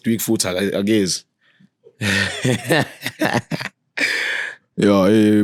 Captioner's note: laughing